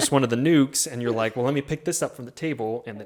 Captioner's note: chuckles